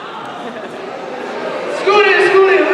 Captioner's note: indistinct chatter